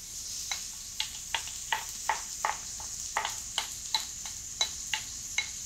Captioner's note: spoon scraping